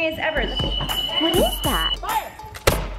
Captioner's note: alarm blaring; gun shot exploding